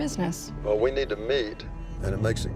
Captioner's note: on phone